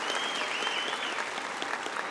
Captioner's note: applause